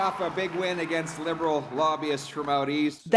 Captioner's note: cheering